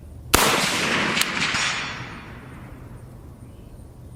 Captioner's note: fires shots slowly